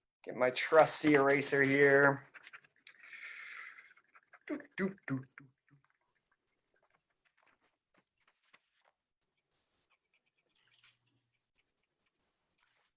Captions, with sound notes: Get my trusty eraser here. (hums)